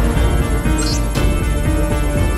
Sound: alphabet displayed sound

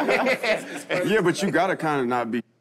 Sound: all laugh

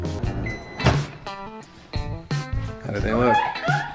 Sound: microwave beeps

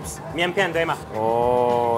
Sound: speaks in chinese

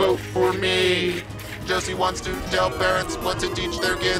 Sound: crowd booing

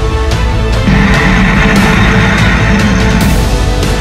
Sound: spinosaurus Roaring

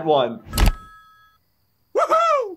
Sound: phone rings

